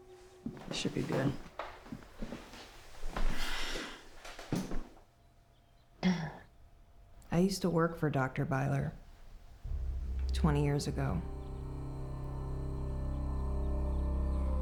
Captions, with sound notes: This should be good. (Anne clears throat) - I used to work for Dr. Byler, 20 years ago. (sinister music)